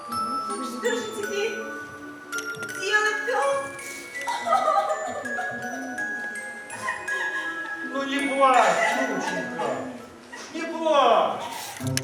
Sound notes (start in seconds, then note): 1.0 through tears; 4.7 crying